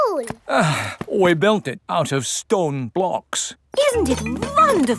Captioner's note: sighs